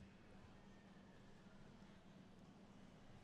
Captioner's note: none